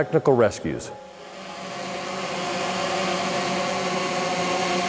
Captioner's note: drone buzzing